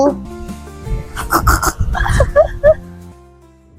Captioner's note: nervous laughs